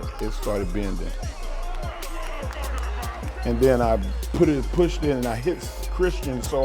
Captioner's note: applause